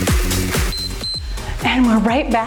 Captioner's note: timer beeps